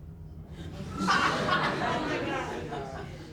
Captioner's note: audience laughs